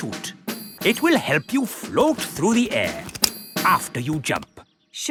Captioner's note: clicking